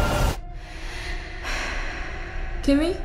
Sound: breathing heavily

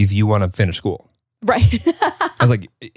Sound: laughs

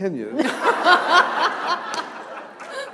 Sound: laughter

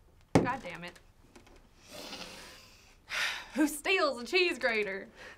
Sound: southern accent

